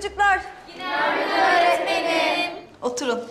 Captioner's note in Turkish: Hep bir ağızdan